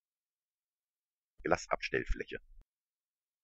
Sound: fast Pronunciation

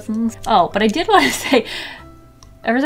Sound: laughs

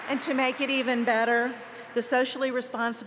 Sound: applause

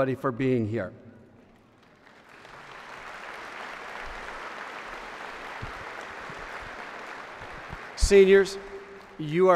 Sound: applause

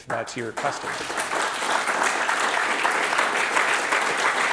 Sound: audience applauding

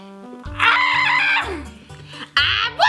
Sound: screaming

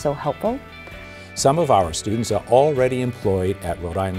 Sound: voiceover

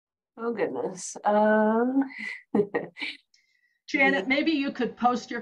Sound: laughter

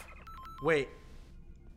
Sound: pause noise

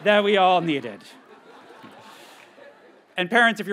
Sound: graduates chuckle

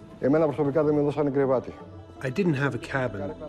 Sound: speaks in foreign language

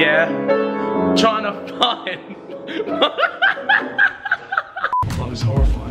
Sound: laughing

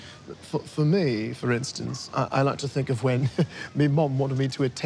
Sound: chuckles

